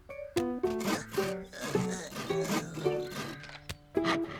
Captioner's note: sawing